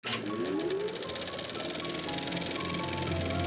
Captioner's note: projector whirring; dramatic music